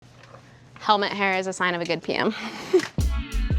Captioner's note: chuckles